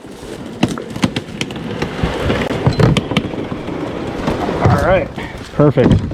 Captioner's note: kayak scraping